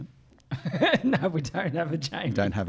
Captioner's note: laughs